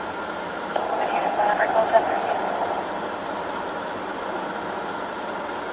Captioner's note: police radio chattering